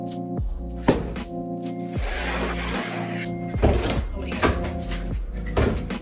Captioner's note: wood scraping and thudding